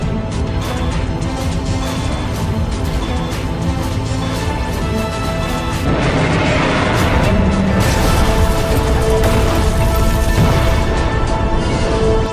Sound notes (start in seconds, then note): 6.1 Dorsal Fins cock in place; 6.1 Godzilla Minus One roars